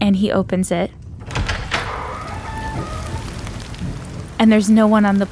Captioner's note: door creaking